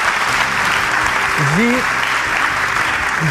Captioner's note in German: Applaus